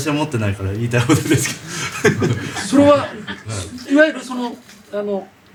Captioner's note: laughs